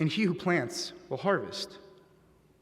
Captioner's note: none